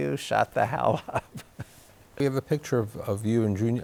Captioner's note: laughs